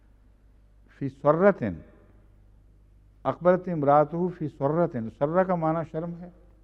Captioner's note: Arabic